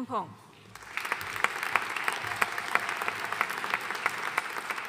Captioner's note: audience applauding